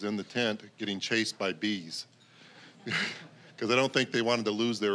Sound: scattered chuckling

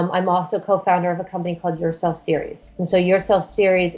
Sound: none

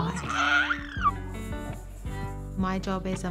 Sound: squeals

